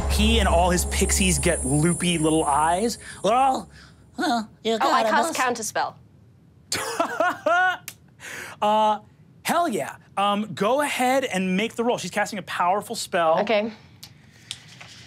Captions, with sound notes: He and all his Pixies get loopy little eyes. Well, well... - I cast counter spell. (laughs) - Hell yeah, go ahead and make the roll. She's casting a powerful spell. - Okay,